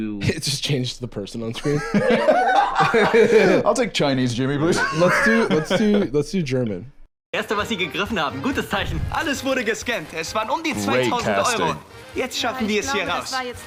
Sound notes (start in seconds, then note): 1.5 laughs; 7.3 chipper German dialogue